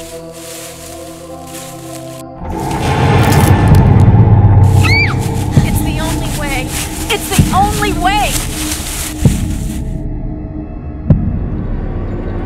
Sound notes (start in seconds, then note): 3.9 jarring, tense music; 4.8 Samantha screams